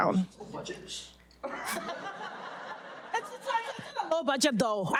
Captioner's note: audience laughing